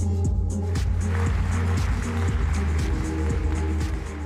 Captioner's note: applause